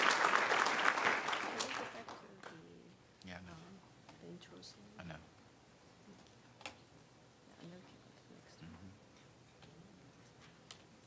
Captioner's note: applause